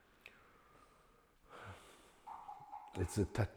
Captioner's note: sighs